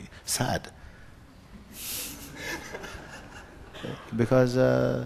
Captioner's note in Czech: smích